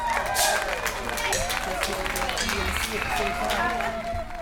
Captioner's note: applause and cheering